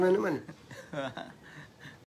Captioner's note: laugh